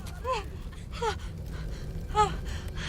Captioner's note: gasps